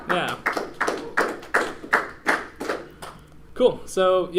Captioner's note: clapping